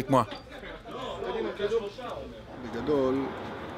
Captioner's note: Spanish spoken audio